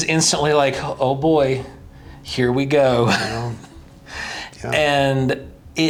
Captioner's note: chuckles